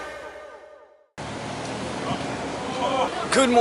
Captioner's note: outdoor crowds talking